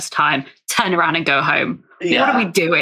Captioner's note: laughs